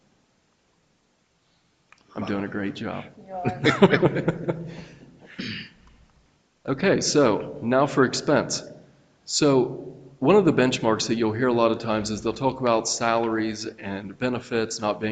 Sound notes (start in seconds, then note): 3.4 people chuckle